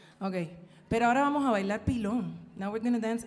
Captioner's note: singer speaking in Spanish; speaking in Spanish